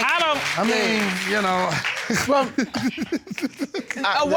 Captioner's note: chuckles